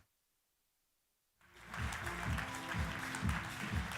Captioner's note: applause